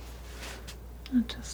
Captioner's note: scratching